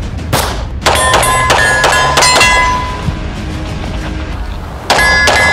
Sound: gunfire pinging and popping

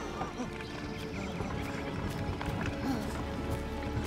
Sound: breathing heavily

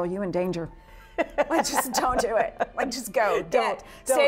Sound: laughing

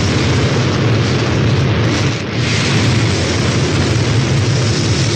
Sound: rocket noise

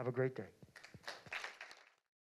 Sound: applause

